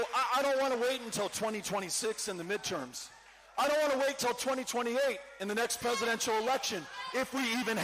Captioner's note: cheering